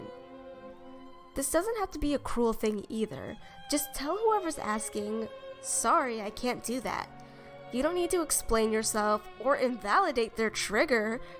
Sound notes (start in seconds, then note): none